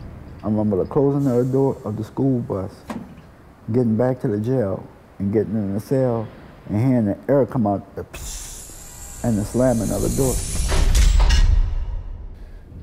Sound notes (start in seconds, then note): 8.1 imitates air moving; 11.2 cell door closing